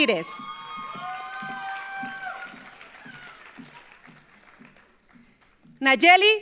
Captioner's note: audience cheers; audience applauds